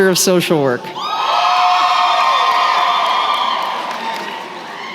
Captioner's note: cheering